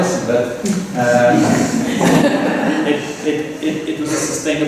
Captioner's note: laughter